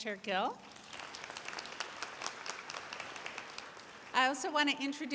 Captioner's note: applause